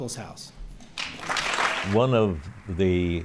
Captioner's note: applause